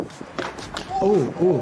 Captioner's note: bone cracking